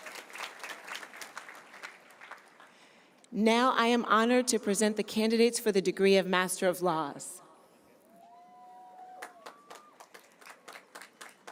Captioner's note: cheers and applause